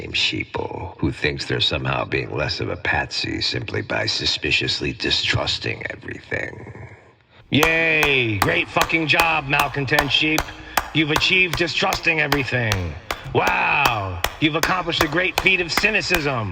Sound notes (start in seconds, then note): 7.5 sarcastic clapping sound